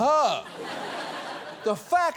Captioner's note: studio audience laughs